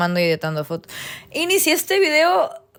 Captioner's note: inhales